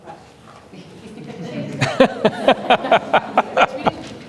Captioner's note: laughter